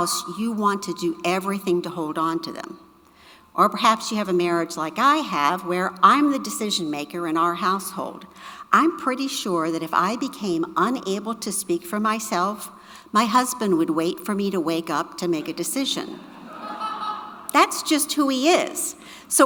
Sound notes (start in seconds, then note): 15.9 audience laughing